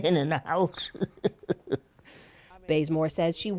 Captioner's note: laughter